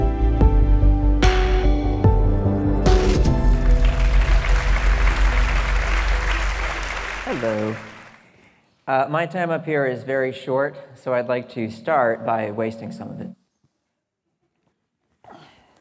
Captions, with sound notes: (audience applauding) Hello. My time up here is very short, so I'd like to start by wasting some of it.